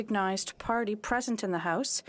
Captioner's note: speaking French